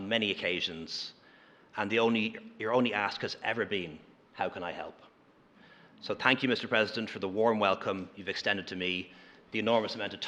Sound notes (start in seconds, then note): none